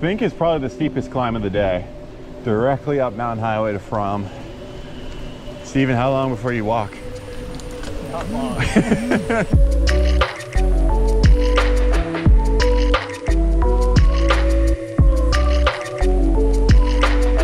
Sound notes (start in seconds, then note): 8.3 laughs softly; 10.1 mellow synth music